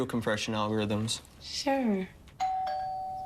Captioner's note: doorbell rings